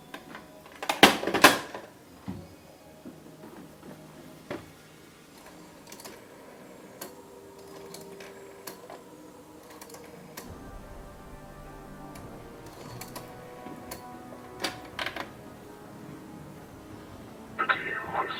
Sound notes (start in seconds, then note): 4.0 dialing the rotary phone